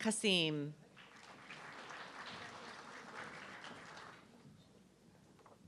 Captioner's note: audience clapping